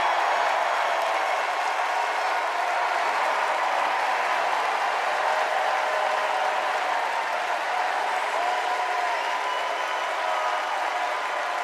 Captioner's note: cheers and applause